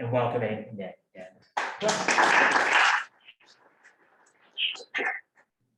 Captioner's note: applause